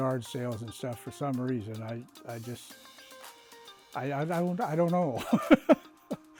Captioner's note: laughs